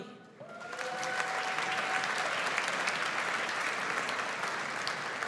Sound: audience applauds

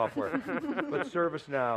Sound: laughter

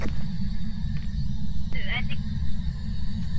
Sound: over Radio

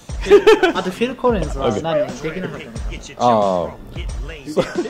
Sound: laughter

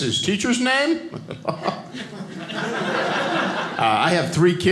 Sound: audience laughing

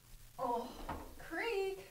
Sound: groaning

